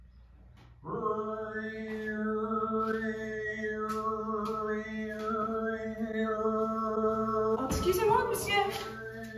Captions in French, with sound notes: [Clown makes chanting sounds] Excusez moi monsieur